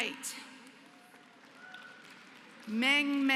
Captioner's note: applause